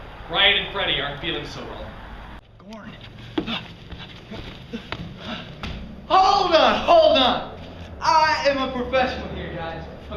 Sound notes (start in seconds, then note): 3.4 Alex grunts during exertion